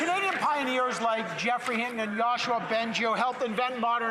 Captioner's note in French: voix de l'interprète